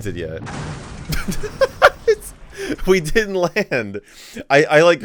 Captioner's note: laughs